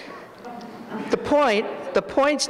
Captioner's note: audience laughs